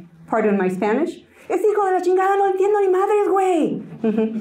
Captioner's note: Spanish